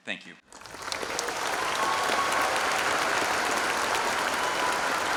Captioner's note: applause